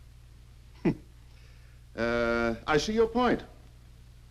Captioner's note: chuckles